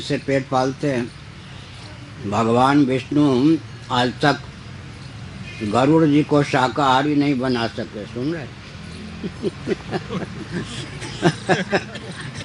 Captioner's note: laughs